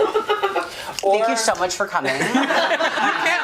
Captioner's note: laughs; everyone laughs